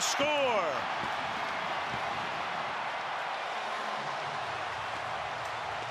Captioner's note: cheering